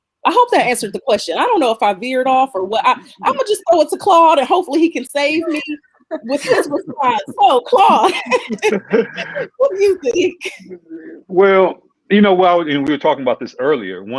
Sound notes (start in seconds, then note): 5.9 group laughing